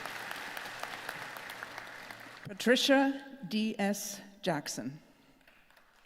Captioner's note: applause; applause